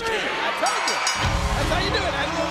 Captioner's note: bell rings